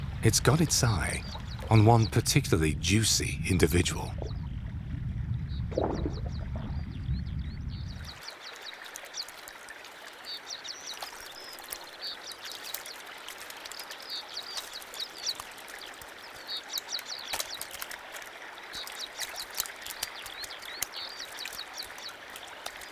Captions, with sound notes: It's got its eye on one particularly juicy individual. (water sloshes) (birds singing)